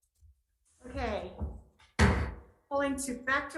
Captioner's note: gavel bams